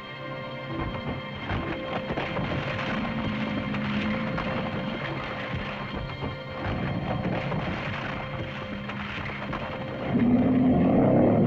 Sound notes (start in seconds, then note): 0.0 tense music; 0.6 rocks rumbling; 10.0 lizard moans; 10.1 rocks rumbling; 10.1 tense music